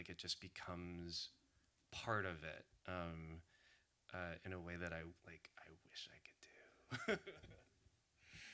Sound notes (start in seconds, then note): 7.0 laughs